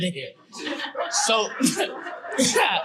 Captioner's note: audience laughing